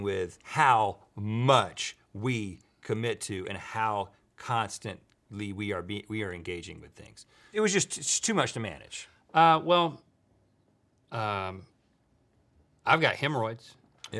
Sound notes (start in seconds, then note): none